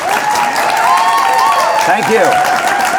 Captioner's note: audience applauding